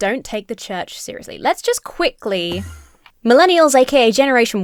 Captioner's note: Enderman whooshes